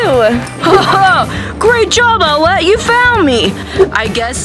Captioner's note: laughs